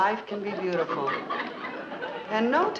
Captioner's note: audience laughing